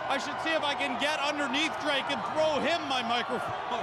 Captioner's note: cheers and Applause